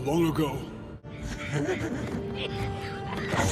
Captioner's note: evil laugh